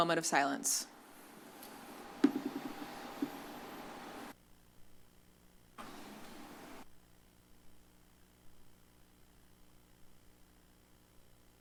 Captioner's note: silence